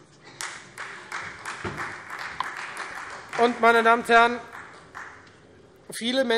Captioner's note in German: Beifall Freie Demokraten